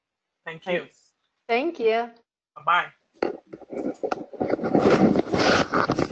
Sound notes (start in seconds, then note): 3.2 rustling